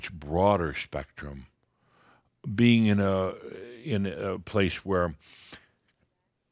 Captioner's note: none